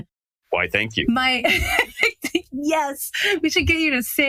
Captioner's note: laugh